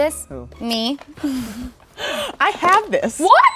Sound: laughing

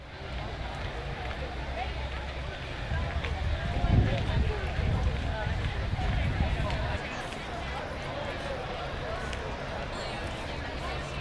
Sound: students talking

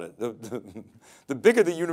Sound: chuckles

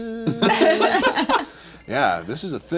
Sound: group laughs

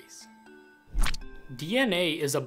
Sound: Squish

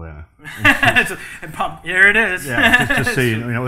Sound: laughs

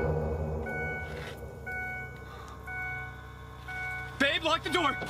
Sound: car beeping

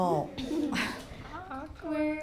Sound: quiet laughing

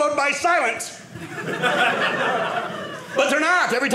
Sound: audience laughing

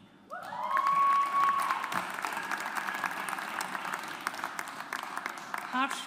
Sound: audience applauds

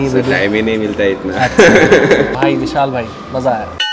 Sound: laughing

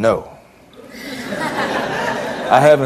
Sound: audience laughs

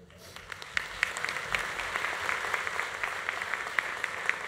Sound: audience applauding

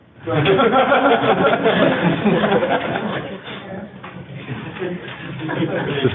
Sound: laughter

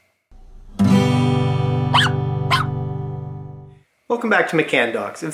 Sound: guitar strum; bark, bark

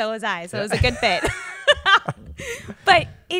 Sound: chuckles

